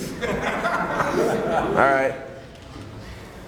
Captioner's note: laughs